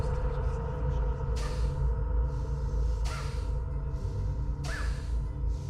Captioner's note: Bjorn breathes sharply